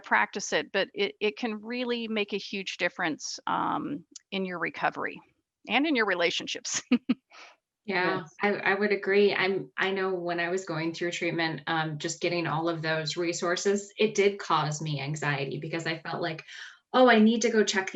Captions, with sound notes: but it can really make a huge difference in your recovery and in your relationships (laughs). - Yeah, I would agree, I know when I was going through treatment, just getting all of those resources, it did cause me anxiety, because I felt like, Oh I need to go check these out